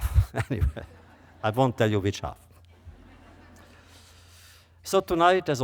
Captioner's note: laughter